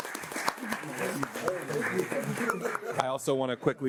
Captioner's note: panelists clamoring; audience applauding continues